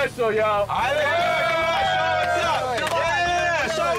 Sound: men cheering

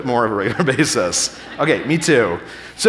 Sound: audience laughing

